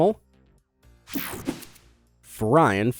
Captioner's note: air whooshing